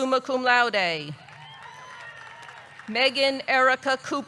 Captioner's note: audience clapping; audience cheering